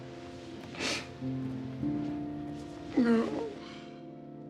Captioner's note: somber music; sobs